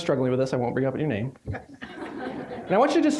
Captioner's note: audience laughing